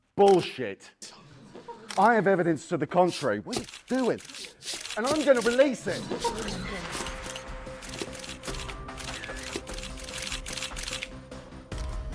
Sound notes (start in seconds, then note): 5.6 dramatic music; 6.4 cameras clicking